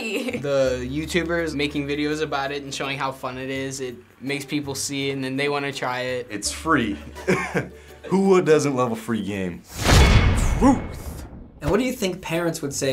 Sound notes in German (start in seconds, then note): 7.1 Lacht; 9.5 Klirren!